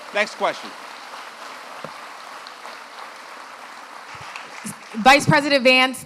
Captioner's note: applause